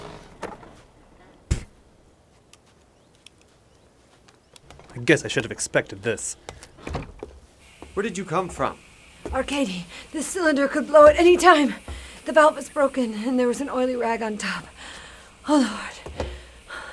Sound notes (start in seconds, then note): 1.5 spits